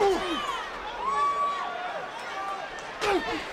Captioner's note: crowd murmuring